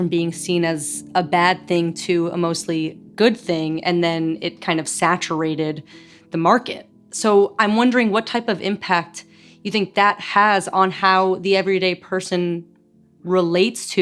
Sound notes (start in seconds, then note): none